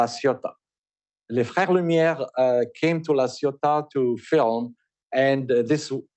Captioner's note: french